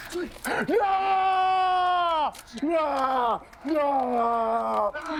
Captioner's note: shouting